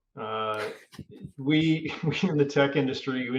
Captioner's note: chuckling